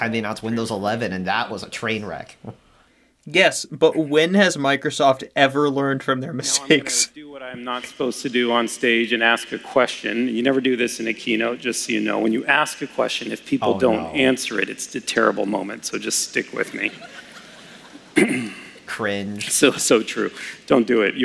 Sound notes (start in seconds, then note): 18.1 clears throat to get more pumped